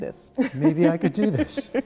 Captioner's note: laughter